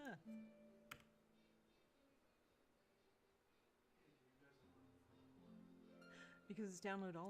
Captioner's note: mouse and keyboard clicking